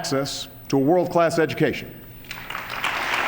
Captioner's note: applause